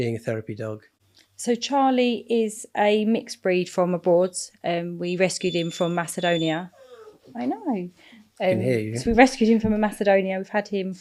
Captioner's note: dog whining